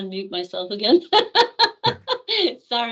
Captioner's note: laughing